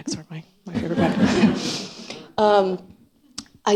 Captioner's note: laughter